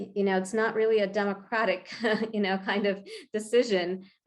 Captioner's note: chuckles